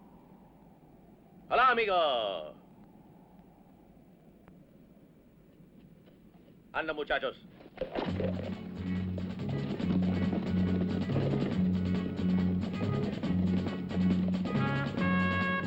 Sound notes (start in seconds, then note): 6.7 speaking spanish